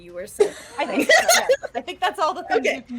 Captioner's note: laughing